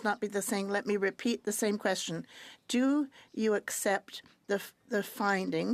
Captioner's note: speaking French